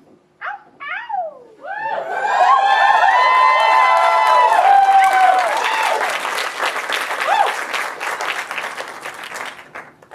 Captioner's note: audience cheers and applause